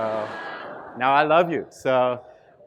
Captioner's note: students laughing